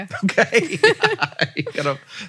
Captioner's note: Rachel and Hank laugh